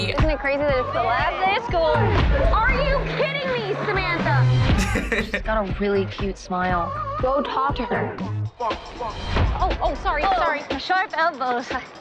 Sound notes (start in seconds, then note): 4.7 laughs